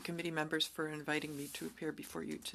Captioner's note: speaking French